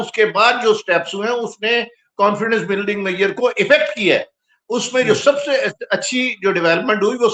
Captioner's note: laughter